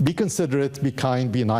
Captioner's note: none